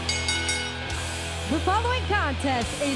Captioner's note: bell ringing